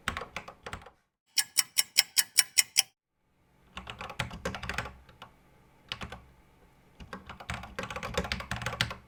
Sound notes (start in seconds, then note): 1.3 clock ticking